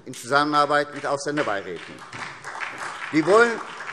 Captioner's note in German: Beifall SPD